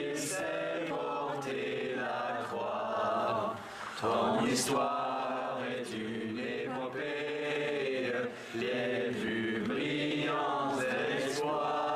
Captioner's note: french